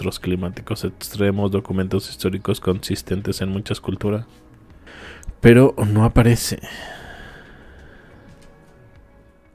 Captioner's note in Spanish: suspiro